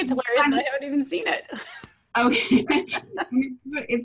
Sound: laughter

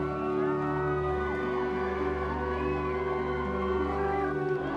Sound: people cheering

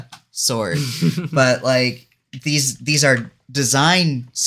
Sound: laughs

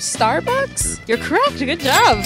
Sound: ding sound

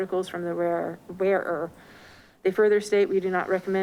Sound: none

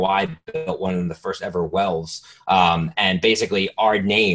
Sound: static

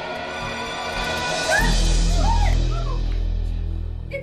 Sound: screaming

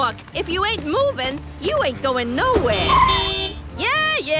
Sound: honking

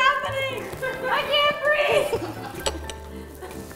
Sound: belly laughs

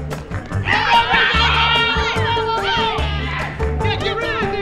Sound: cheering

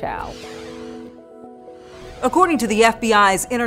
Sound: logo swooshing

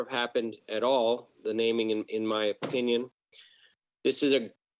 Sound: door closing

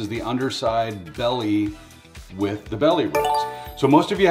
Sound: electronic bell ringing

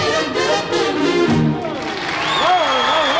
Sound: audience cheering

